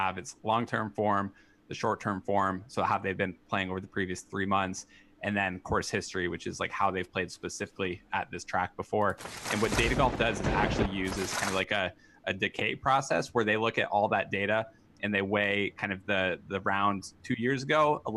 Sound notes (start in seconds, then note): 9.1 papers shuffle; 9.5 thunder booms